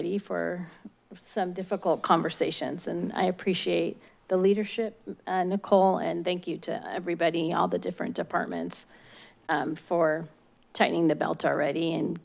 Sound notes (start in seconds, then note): none